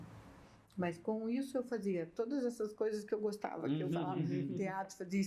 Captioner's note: laughs